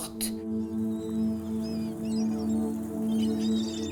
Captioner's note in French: cris de mouettes